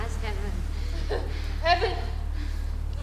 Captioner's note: chuckling